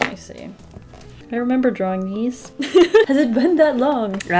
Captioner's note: laughs